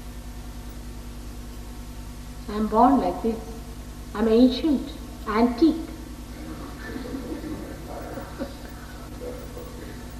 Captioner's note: laughter, She laughs